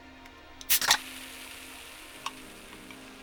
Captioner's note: fizzing